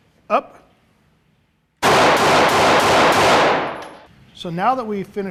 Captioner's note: gunshots